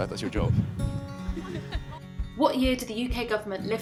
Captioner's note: laughter